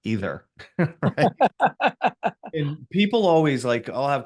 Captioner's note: pair laughs